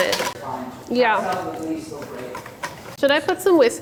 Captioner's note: background chatter